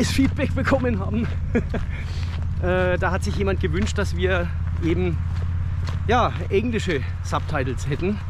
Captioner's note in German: lacht